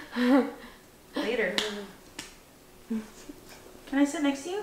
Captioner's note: clapping